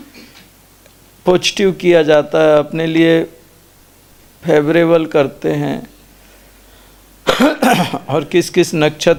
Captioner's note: coughing sound